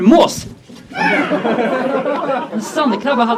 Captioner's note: audience laughs; seagull caws